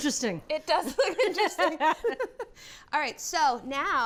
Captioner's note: laughs